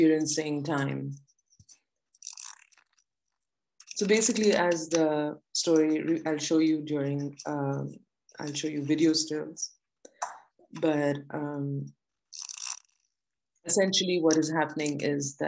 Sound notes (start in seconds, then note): 2.1 pages fluttering